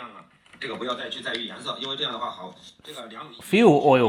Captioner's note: man speaking foreign language